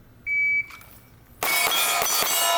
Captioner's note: alarm beeping; shots firing at steel target